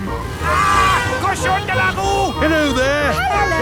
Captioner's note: yells